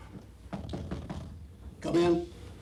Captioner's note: door knocking